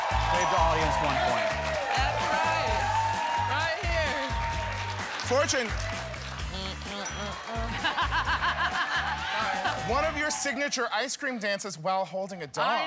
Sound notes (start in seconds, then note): 6.4 laughs